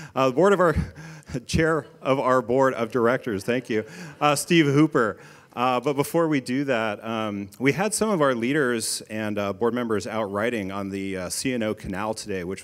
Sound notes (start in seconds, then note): 3.1 audience laughing